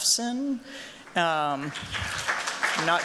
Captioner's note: applause